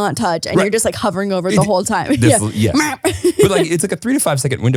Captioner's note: beeping